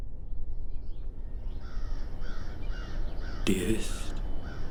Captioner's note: crow cawing